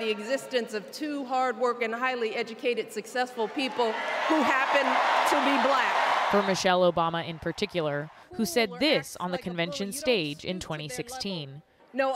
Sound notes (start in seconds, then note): 6.2 applause; 6.2 cheering